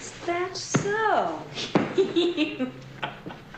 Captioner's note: laughter